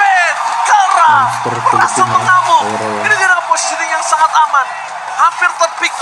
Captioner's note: applause